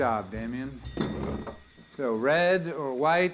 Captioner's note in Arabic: رنين الفرن